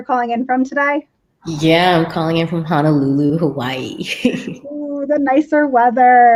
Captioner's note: laughs